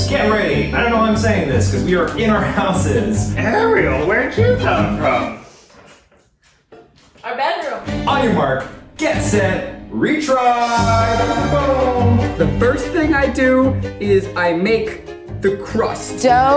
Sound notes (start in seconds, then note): 3.4 laughing; 11.2 triumphant music